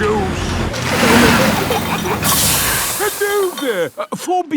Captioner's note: peppa and george giggling; air hisses